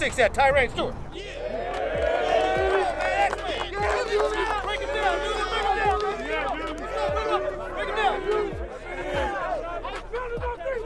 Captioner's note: cheering